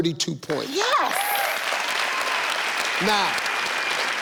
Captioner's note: audience clapping